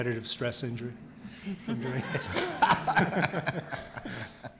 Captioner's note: audience laughs